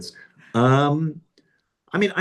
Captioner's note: laughs